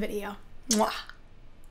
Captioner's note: lips smacking